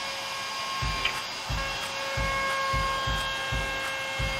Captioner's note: sander whirring